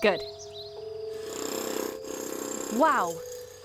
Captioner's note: jack hammer